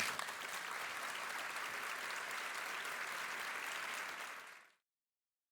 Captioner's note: applause